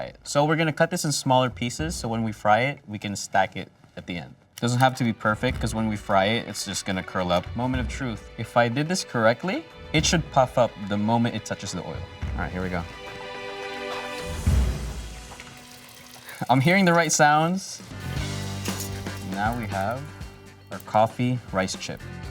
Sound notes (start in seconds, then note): 14.2 oil sizzling